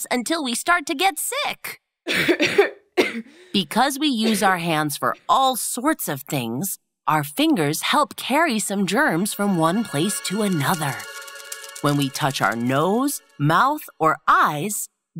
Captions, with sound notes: until we start to get sick! [coughs] Because we use our hands for all sorts of things, our fingers help carry some germs from one place to another. When we touch our nose, mouth, or eyes,